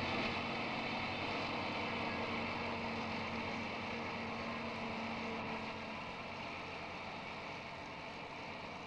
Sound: sound of machinery, fades out

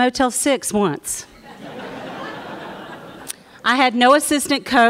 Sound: laughter

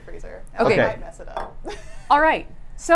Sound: laughs

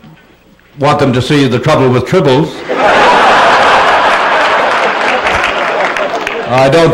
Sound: laughter

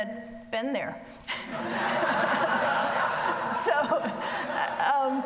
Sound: audience laughing

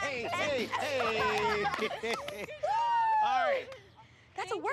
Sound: laughs

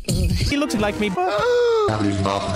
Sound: gasps

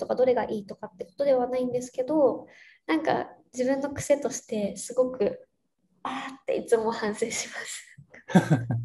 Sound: laugh

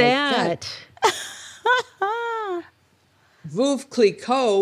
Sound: laughs

